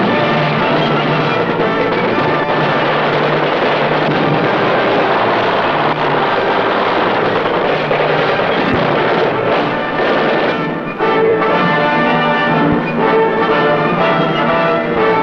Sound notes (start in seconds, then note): 0.0 bomb explodes; 0.2 band music plays; 9.1 bombs explode; 11.3 marching band music plays